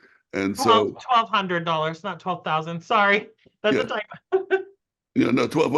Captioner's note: laughs